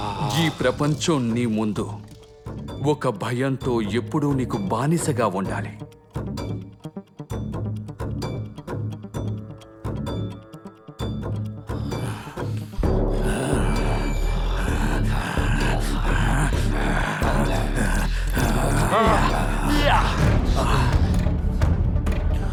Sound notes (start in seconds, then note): 13.2 growling; 18.9 vocal exercise continues